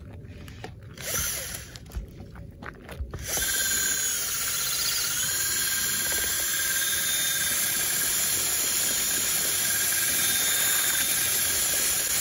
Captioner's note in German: Geräusch einer elektrischen Bohrmaschine